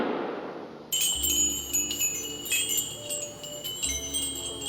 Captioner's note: wind chimes tinkling